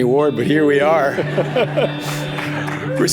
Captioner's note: laughter; brief clapping